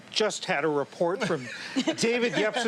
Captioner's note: laughter